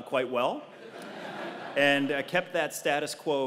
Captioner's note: laugh